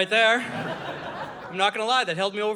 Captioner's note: audience laughing